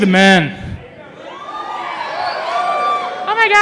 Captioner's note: cheering